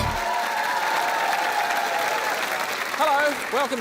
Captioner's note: applause